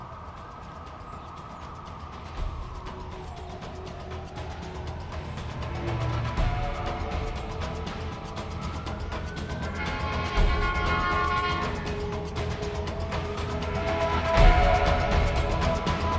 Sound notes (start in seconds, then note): 9.5 traffic honking; 12.9 suspenseful music